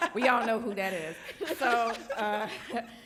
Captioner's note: panelist laughing